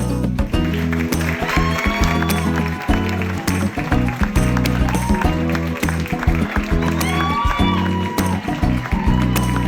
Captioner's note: applause, cheering